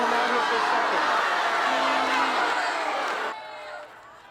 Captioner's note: loud booing